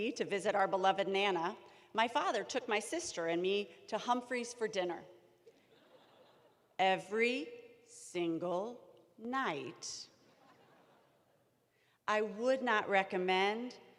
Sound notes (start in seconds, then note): 5.4 laughter